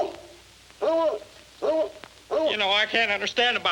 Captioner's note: dog barking